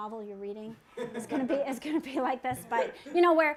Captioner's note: laughter